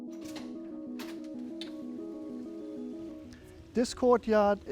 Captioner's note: door clicking